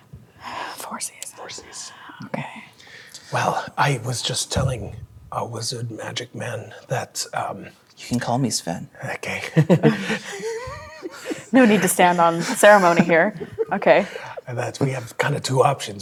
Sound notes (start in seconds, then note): 0.3 sighs; 9.5 players laughing